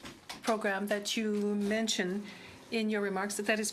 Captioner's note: speaking French